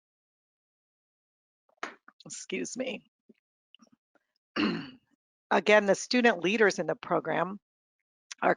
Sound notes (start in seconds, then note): 4.6 clears throat